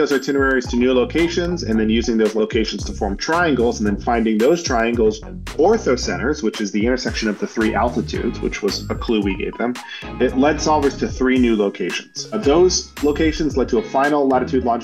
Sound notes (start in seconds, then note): none